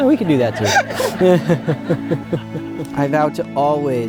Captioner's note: congregation laughs